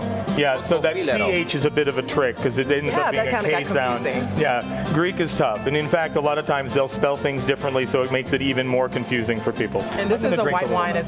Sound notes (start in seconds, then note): 3.9 speaking non-english language